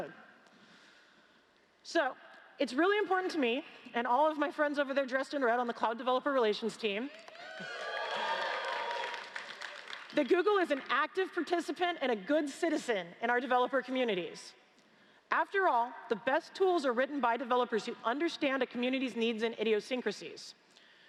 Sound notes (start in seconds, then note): 10.2 cheers & Applause